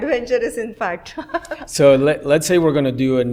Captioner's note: laughs